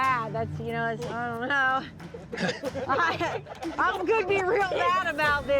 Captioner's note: chuckles